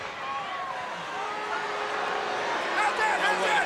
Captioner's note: crowd boos